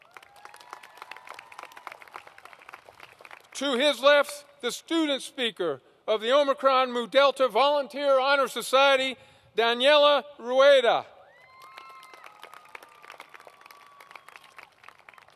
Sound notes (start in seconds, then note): 0.0 applause; 11.4 applause